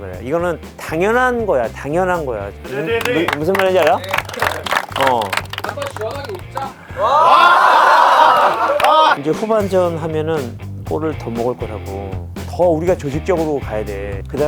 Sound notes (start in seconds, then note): 6.9 forced laughter